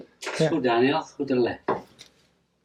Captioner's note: in foreign language